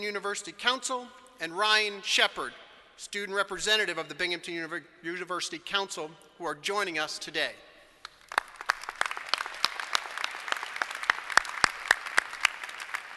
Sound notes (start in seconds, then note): 8.0 applause